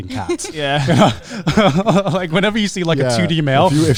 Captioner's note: laughing